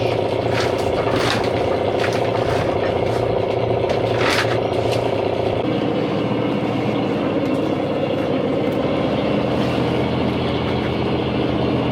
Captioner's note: engine revving